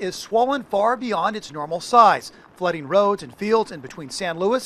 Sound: water flowing

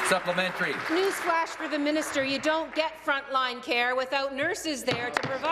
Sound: applause

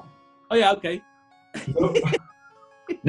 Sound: laughing

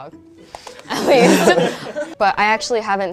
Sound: laughing

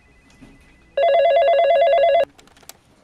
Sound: phone rings

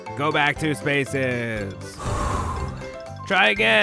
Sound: exhale

